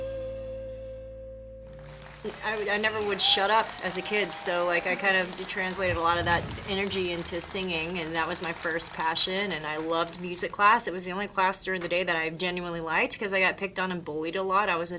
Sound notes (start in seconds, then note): 1.5 audience applauding